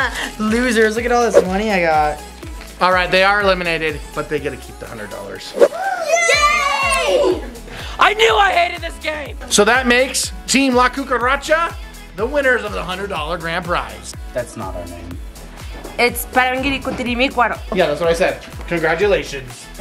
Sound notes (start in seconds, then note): 5.7 kids cheering